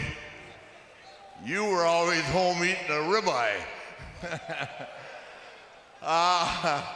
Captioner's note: chuckles